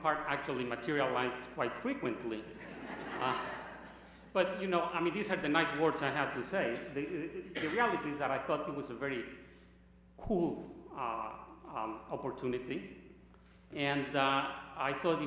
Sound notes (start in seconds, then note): 5.2 laughter